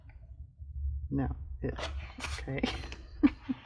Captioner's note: laughs